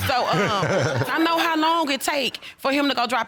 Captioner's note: all laughing